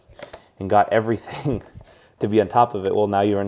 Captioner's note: laughs